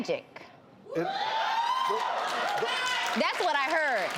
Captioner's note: audience cheers and applauds